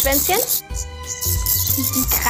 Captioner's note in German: Piepsen